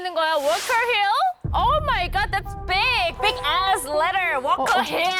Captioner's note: thud sound